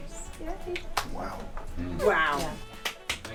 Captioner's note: crowd members exclaim